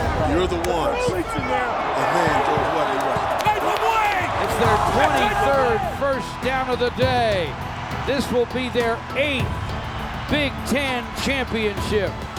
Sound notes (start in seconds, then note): 1.7 crowd cheering; 3.4 people chatting indistinctly